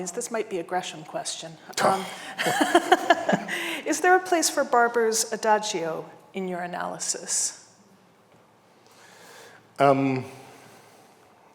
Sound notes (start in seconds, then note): 2.3 host laughing